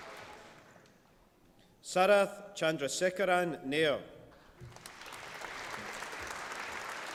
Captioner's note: applause